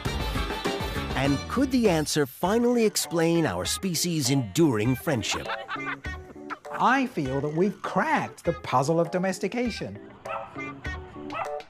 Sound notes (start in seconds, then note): 5.1 laughing; 10.2 barking